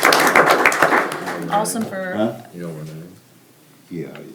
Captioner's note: clapping